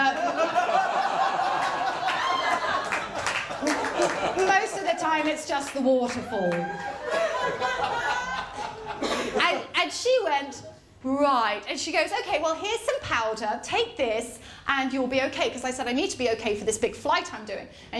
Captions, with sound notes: [LAUGHTER & APPLAUSE] ‘…most of the time it’s just the waterfall.’ [LAUGHTER] And she went, ‘Right.’ And she goes, ‘Okay, well here’s some powder.’ ‘Take this and you’ll be okay.’ Because I said, ‘I need to be okay for this big flight I’m doing.’